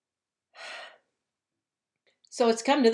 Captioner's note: sighs